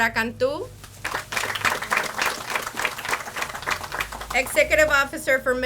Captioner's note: audience applauds